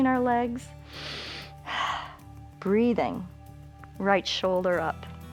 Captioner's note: inhales and exhales